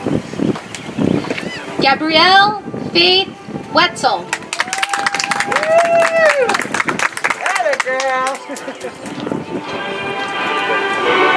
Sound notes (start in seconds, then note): 4.3 audience applauds; 7.8 soft music